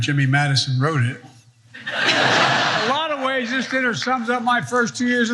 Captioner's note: laugh